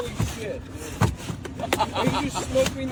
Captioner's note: laughs